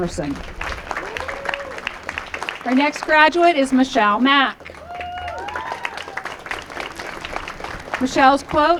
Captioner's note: applause